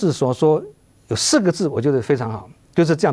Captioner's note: Mandarin